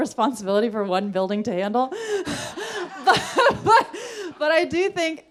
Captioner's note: laughs